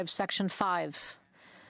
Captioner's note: speaking French